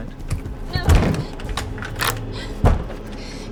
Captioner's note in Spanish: la cerradura se gira